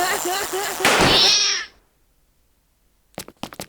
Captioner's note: laughing; meowing